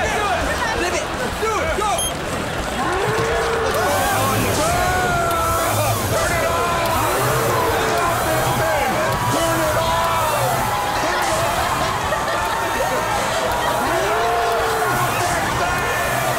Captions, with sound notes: Go. [bellowing] Whoa! Turn it off! Let me off this thing! Turn it off! [cheering, laughing] Turn it off! Stop this thing!